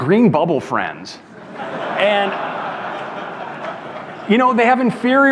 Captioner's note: audience laughs